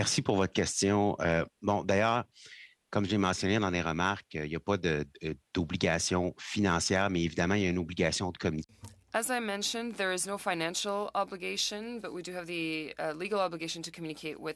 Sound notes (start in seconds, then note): 7.5 speaking French